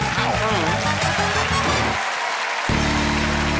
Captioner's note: cheering and applause; audience applauding